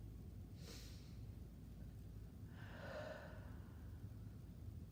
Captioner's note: breathing deeply